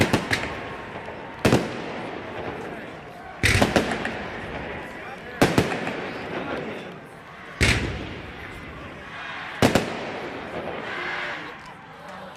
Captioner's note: fireworks; cheers